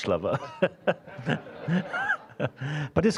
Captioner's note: all laughing